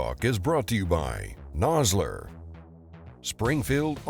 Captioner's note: voiceover